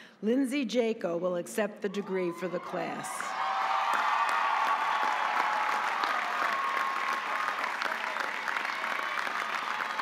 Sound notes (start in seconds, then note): 3.3 audience applauding